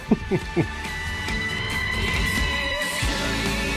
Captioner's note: laughs; upbeat music